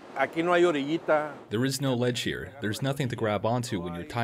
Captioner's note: through translator